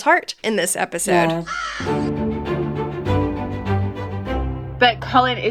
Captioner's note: crow cawing